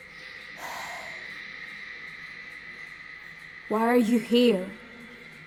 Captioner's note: sighs